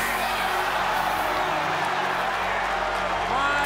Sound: crowd shouting

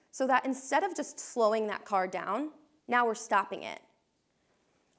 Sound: none

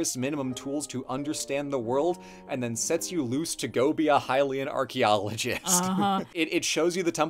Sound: laughs

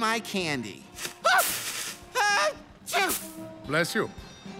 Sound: Elfo screams

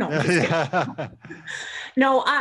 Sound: laughing

